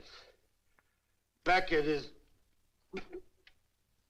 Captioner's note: gags